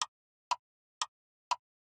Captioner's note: clock Ticking